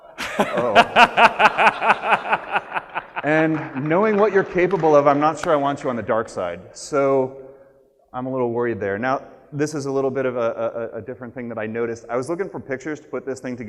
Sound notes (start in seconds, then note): 2.7 laughs